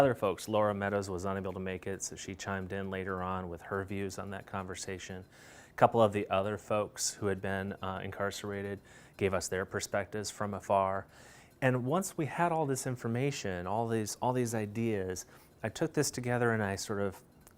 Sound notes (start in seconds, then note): none